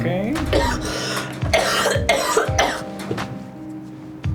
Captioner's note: coughing